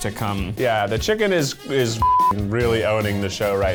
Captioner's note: beep